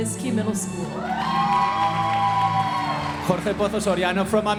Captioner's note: audience applauding